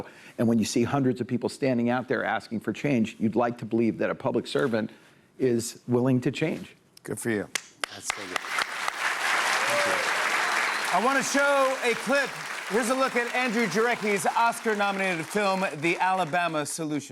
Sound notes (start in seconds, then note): 8.3 applause